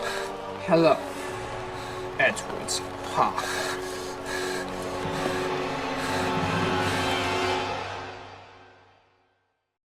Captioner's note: eddie breaths heavily